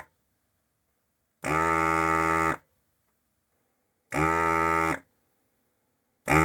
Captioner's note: buzzer Buzzing